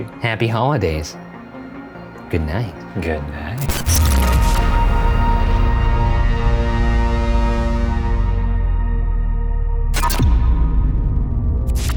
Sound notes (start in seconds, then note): 3.5 film screeching; 4.3 dramatic music